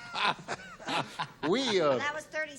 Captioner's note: laughter